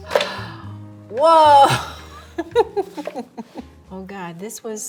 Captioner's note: laughing